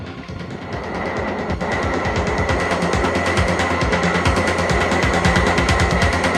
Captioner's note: aircraft whirring; intense industrial music